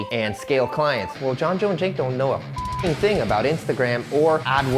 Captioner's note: beep